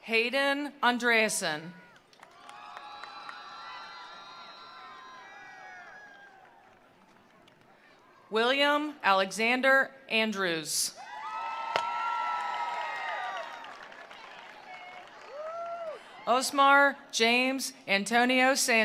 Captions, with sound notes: Hayden Andreasen. (attendees applauding) (attendees cheering) William Alexander Andrews. (attendees applauding) (attendees cheering) Osmar James Antonio Sanchez.